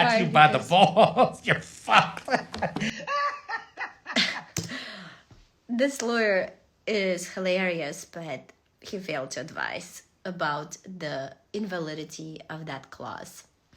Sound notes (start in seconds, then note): 2.9 laughs